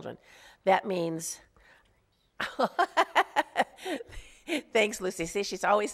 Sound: laughs

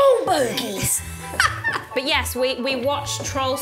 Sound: laughs

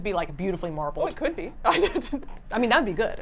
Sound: laughs

